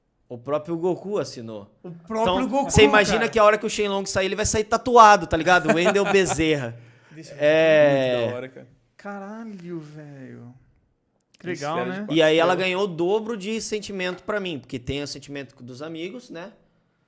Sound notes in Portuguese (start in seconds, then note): 5.4 risos